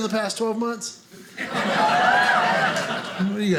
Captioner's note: audience cheering